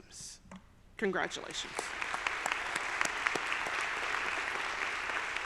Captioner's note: audience applauding